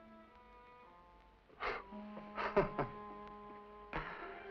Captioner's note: scoffs